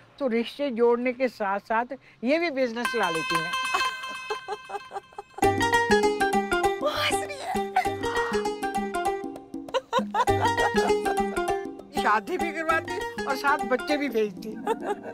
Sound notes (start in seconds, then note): 3.8 giggling; 9.7 giggling